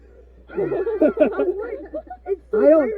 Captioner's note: laughter